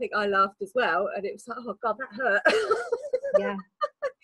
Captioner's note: laughs